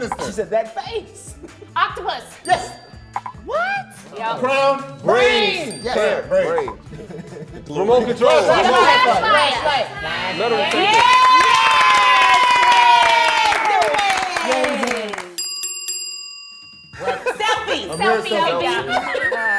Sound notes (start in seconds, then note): 2.4 bell dings; 5.6 bell dings; 8.9 timer buzzes; 9.2 bell dings; 10.4 they cheer and clap; 15.3 bell dings